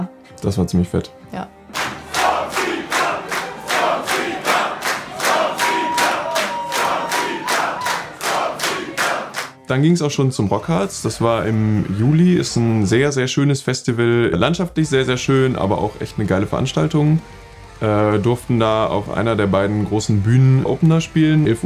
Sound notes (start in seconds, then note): 1.8 crowd